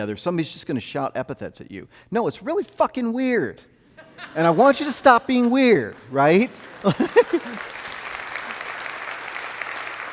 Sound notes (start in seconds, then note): 4.0 audience laughing; 5.8 audience clapping; 6.7 laughs